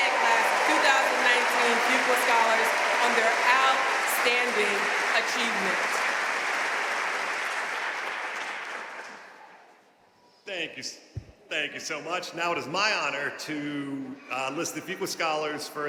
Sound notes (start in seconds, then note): 6.1 audience cheering and applauding